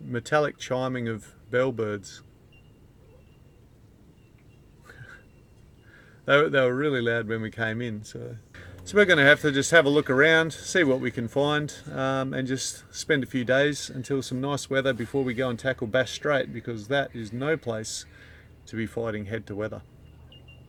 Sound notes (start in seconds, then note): 1.3 bellbirds chiming; 4.8 chuckles